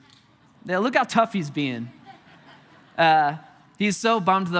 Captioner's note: congregation laughing